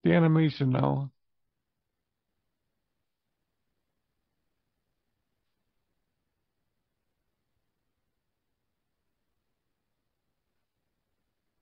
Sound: silence

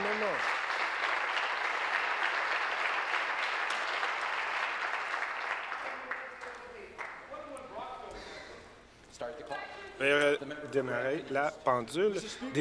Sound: applause

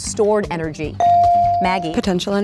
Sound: ding

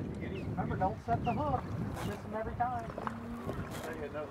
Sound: wind blows

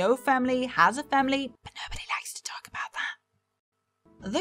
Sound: whispers

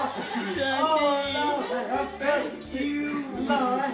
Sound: group gleefully laughing

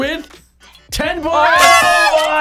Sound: whispers

